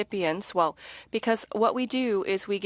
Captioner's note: speaking French